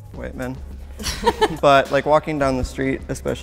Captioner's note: laughter